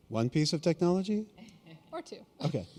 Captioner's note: chuckle